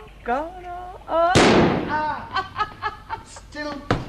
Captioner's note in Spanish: Risas